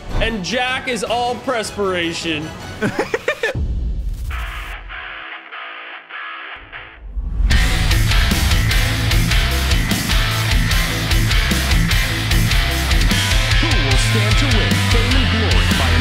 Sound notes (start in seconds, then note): 2.8 laughs; 4.4 intense rock music